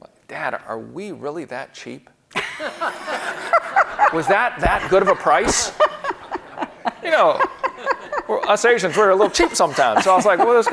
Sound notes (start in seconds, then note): 2.5 audience laughing